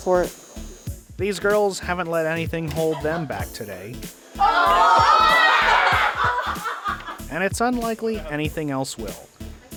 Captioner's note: laughter